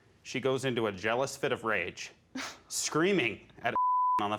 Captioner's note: scoffs